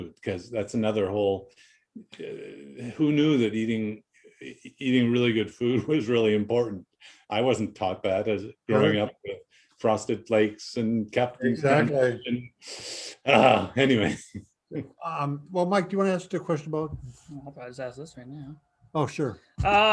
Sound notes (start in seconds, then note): 13.2 chuckles